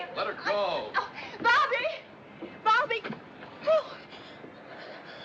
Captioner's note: gasps